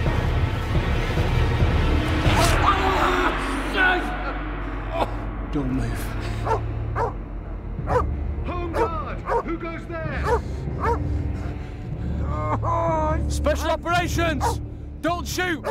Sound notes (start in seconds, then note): 2.4 Von Richter screams; 6.9 dog barking; 12.1 Von Richter groaning